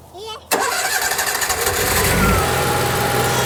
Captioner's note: generator roaring